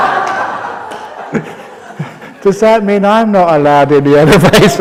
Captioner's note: laughter